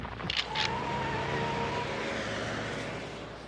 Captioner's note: gun bangs; tires squeal